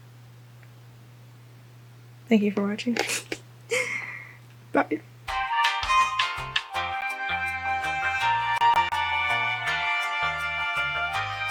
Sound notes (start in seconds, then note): 3.7 laughs; 5.3 upbeat elevator music